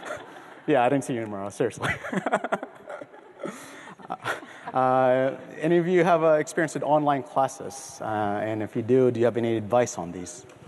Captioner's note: laughter